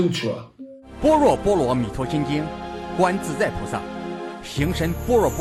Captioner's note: speaking in foreign language